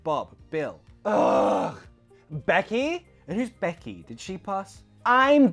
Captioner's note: groans